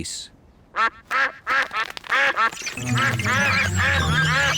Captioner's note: all quack